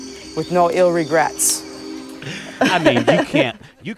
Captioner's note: laughter